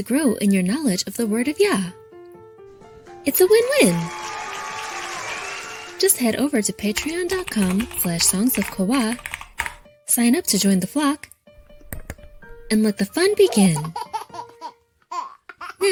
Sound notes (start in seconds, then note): 3.2 crowd cheering; 6.8 keys clicking; 11.9 mouse clicking; 13.2 baby laughing